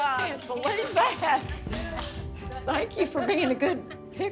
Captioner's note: group clapping